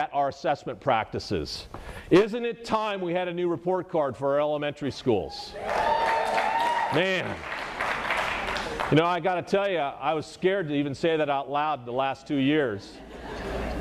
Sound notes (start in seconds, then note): 5.6 applause